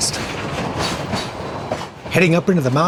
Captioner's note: train wheels clanking